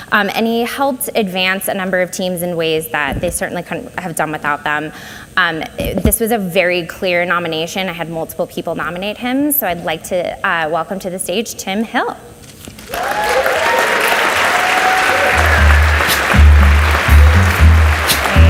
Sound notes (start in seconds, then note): 12.8 audience cheers and applauds